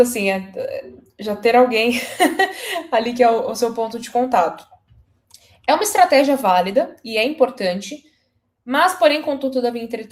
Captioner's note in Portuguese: risadas